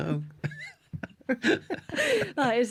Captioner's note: laughter